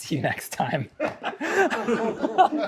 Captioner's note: everyone laughing